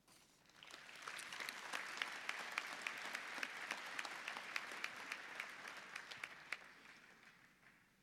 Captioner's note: applause